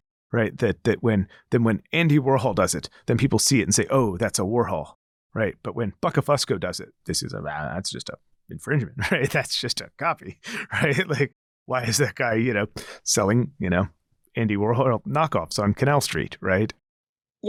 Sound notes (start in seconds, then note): 10.2 laughs